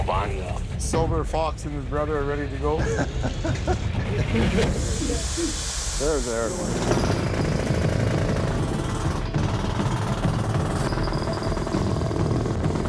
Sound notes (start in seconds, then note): 2.7 chuckles; 4.4 air hissing; 6.7 whirring; 10.3 dramatic music playing